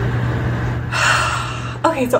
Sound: dramatic sigh

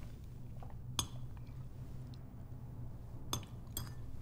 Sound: cutlery clinking

